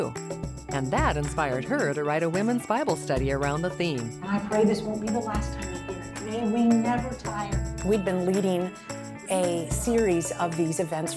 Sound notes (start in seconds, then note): none